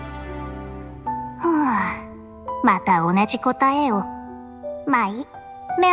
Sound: sigh

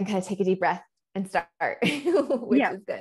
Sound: chuckles

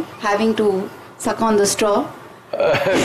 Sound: laughs

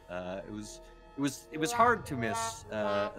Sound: disappointing sound effect

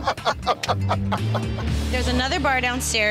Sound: laughing

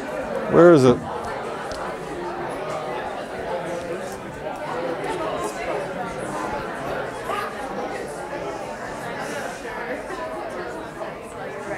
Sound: chatter

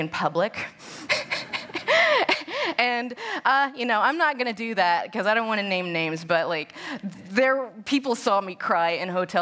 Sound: laughter

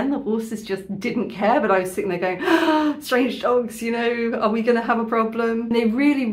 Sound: gasp

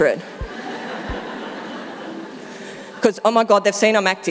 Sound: audience laughing

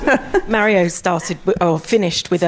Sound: laugh

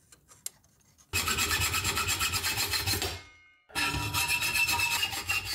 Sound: sawing

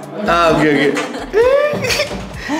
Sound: laughs

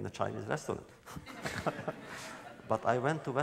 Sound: laughter

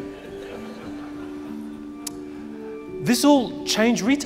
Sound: crowd laughing

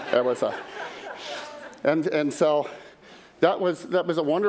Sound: laughter

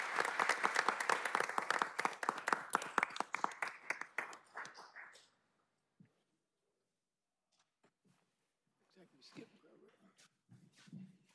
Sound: applause

